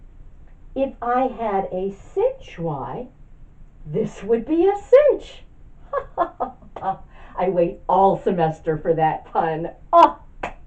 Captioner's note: evil laughter